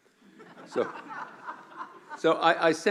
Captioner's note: laughing